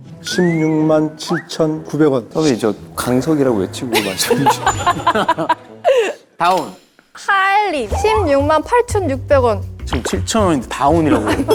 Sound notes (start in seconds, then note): 3.9 haha